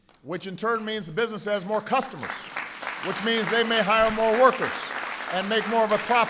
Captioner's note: applause